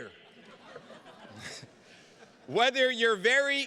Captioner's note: attendees laughing